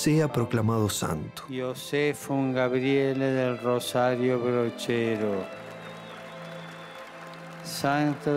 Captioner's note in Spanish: Papa Francisco, en italiano; Aplausos